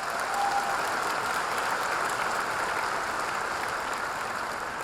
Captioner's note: audience applauding